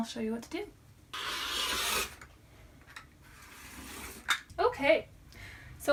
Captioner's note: rotary cutter slicing fabric